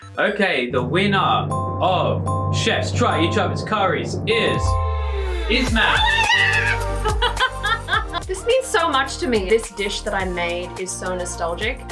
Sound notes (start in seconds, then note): 5.8 laughs; 6.1 upbeat music